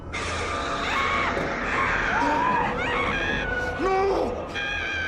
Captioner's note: frightening music; screaming